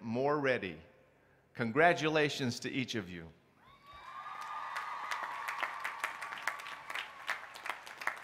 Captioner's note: applause